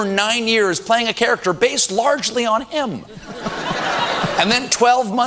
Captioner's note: audience laughter